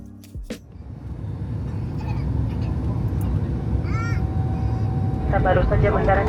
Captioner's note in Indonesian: Suara pesawat